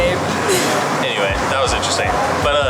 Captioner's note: laughs